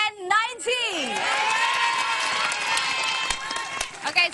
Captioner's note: cheering